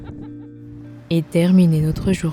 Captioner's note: laughs